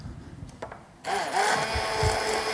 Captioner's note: grinding